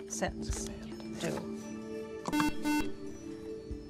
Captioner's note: buzzer